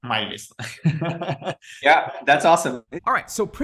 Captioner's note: both laughing